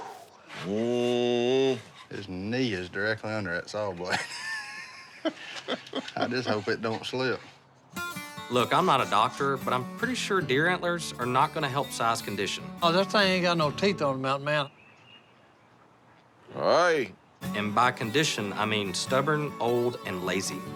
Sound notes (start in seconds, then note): 4.0 laughs